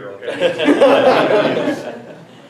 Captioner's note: everyone laughs